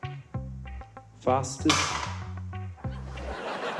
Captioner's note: clatter!